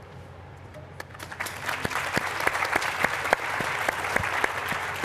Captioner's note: applause